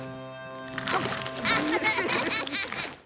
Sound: laughing

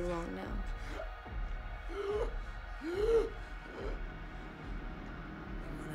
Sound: light dramatic music; Solomon gasping

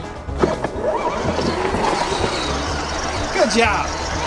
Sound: toy hauler moving

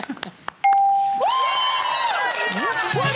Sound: cheering

